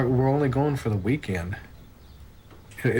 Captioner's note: none